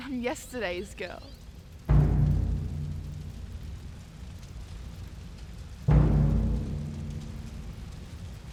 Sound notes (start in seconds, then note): 1.9 dramatic music; 1.9 fire crackling